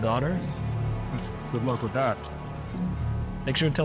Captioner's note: scoffs